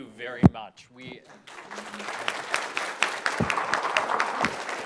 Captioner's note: applause